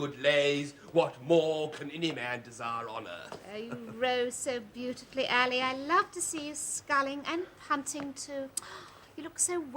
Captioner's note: sigh